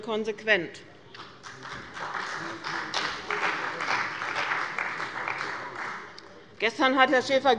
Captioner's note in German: Beifall bei dem BÜNDNIS 90/DIE GRÜNEN und der CDU